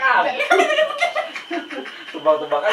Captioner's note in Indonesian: ketawa monyet